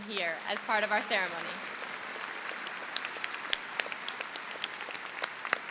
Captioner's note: audience applauds